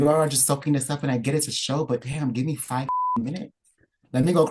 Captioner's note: beep